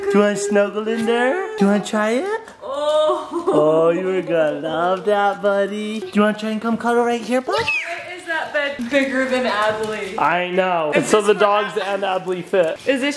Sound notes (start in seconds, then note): 3.0 laugh